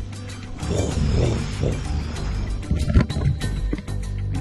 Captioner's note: playfully mumbles